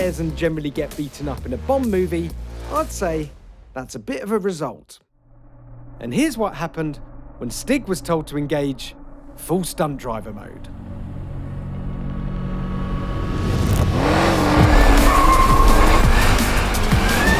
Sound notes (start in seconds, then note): 14.6 tyres squeal